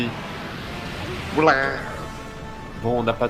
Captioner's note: Sound of murlok